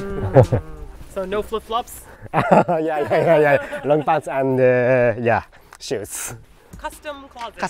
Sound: laughing

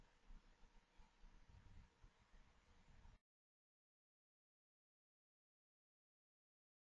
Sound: silence

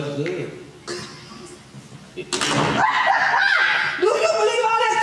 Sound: laughing

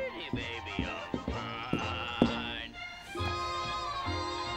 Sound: rhythmic tapping

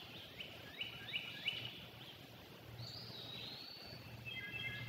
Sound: birds chirping and singing

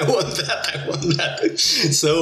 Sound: laughs

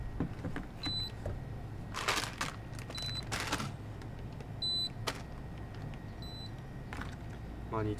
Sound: calculator operating sound

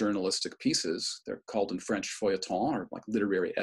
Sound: speaking french

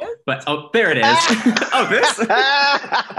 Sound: laughter

